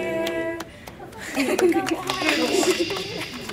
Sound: clapping and laughter

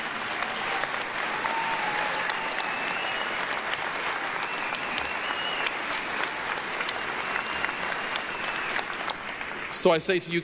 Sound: applause, cheering

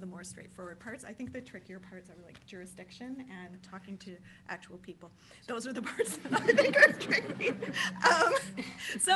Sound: laughter

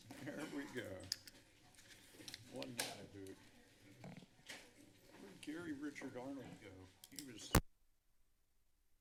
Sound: background conversations only; mic thump; silence

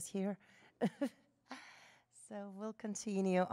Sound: laughter

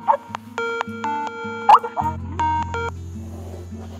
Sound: Skype ringing

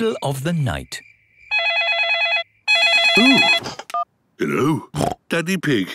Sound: owl hooting; phone ringing; snorting

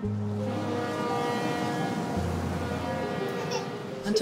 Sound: horn blaring; soft music; laughing

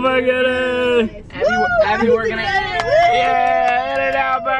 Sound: cheering

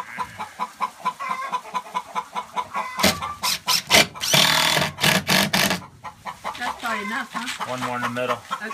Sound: chickens squawk loudly

